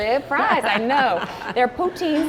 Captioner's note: laughs